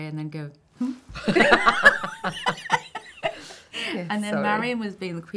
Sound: laughing

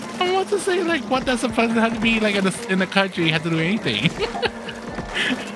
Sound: chuckles

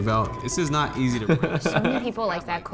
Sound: laughs

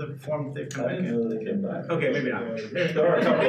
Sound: speaking faintly

